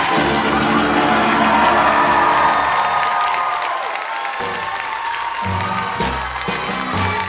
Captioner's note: applause